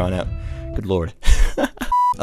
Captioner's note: laughs